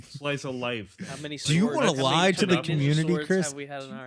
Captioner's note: group chattering